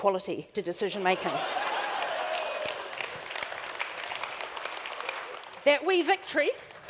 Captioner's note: audience Clapping